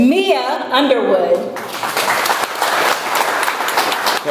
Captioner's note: audience applauds